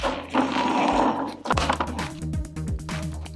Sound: pot clanking

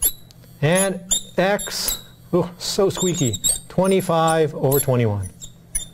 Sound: squeaking marker

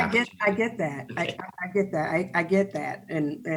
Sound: chuckles

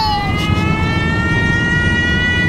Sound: baby crying; alarm

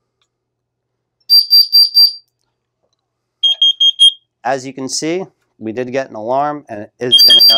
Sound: beeping

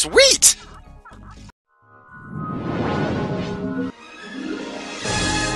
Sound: mystical sounds

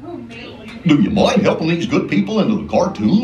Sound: laughs

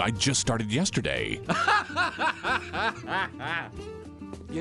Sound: uncontrollable laughter

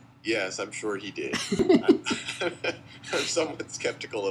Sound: laughter

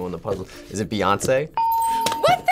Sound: ding

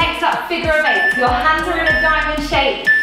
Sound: timer beeping

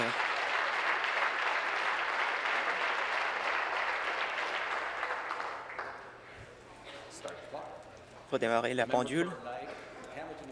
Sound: applause

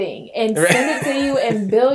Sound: laughing

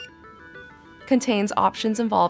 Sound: electronic beep

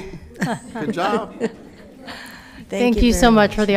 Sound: people chuckle

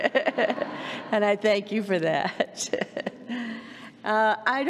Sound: laughs

